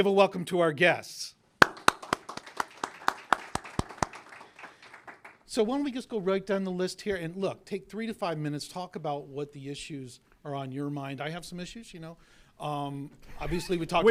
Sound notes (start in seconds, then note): 4.8 applause